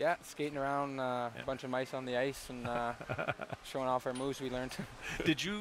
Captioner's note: laughter